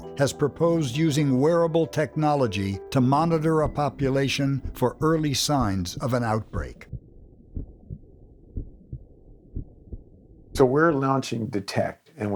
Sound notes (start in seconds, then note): 8.4 heart beating